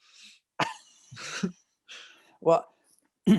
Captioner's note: laughter